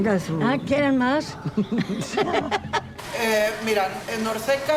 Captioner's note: laughs